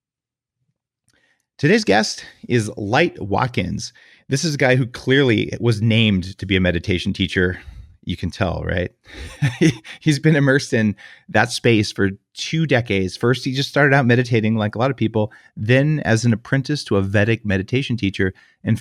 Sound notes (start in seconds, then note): 9.1 laughs